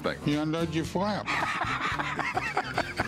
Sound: laughs

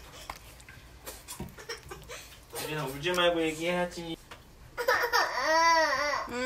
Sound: crying

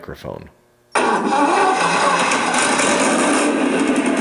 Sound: engine revving

